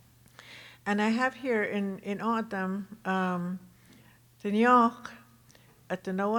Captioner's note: speaking Tohono O'odham